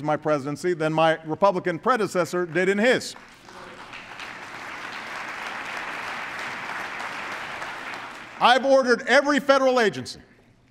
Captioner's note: applause